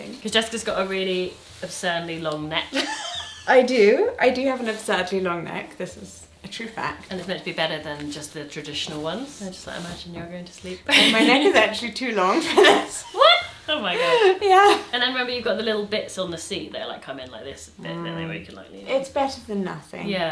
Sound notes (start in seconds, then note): 2.7 laughing